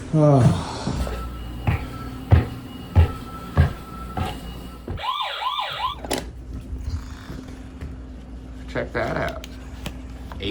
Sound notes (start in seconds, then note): 0.4 footsteps ascending; 4.9 motion alarm blaring; 6.2 motion alarm clicking